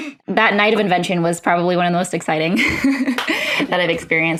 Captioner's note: laughs